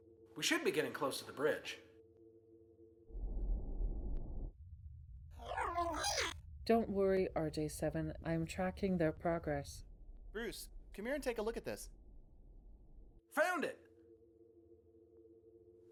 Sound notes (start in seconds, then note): 5.4 robot makes sounds; 6.5 computer voice